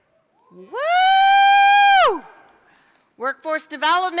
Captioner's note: scattered cheering